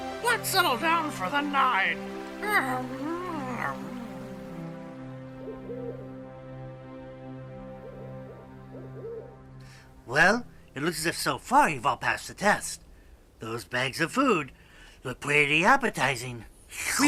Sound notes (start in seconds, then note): 5.2 owl hooting